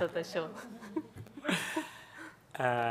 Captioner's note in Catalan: riures